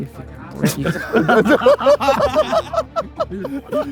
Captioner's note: group laughs